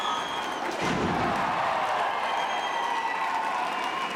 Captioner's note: bodies thud